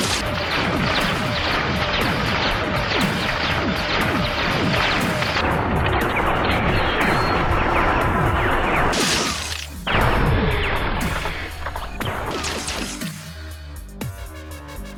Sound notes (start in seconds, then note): 0.2 intense electronic music; 9.8 explosion booms